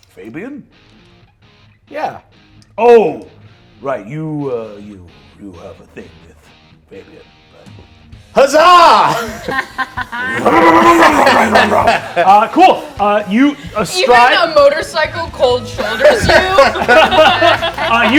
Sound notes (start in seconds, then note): 9.1 laughter; 10.2 mimics motorcycle roaring; 15.7 laughter